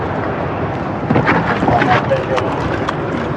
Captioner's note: shuffffliling